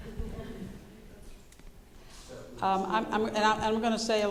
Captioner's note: audience laughing